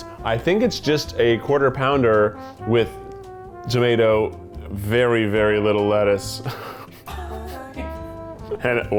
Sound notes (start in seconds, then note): 6.4 laughs